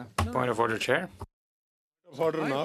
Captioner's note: speaking French